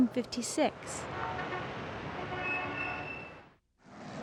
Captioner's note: horns honking